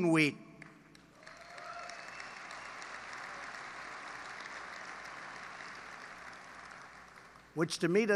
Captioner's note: applause